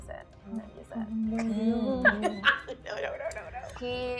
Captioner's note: laughing